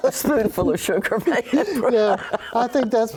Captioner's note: laughter